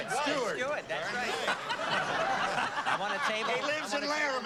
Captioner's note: laughter